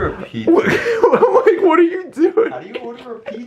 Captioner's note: lols